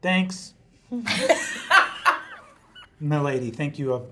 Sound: laugh

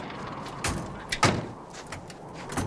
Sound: multiple car doors slam shut; wind whistling

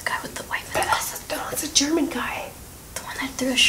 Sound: whispering; louder whisper; whispering

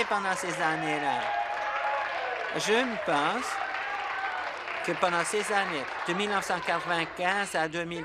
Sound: applause

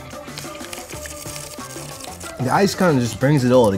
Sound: slurping

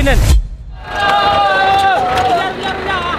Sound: cheering

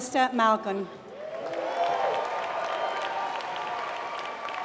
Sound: applause

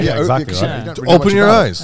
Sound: group chattering

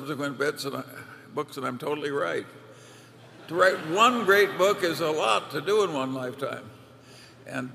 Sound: laughter

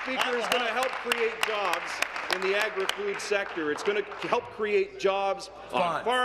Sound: applause

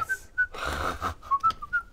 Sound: snickering

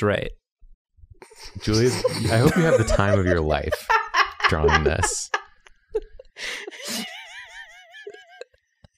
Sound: laughter

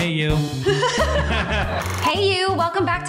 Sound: upbeat drum music; laughter

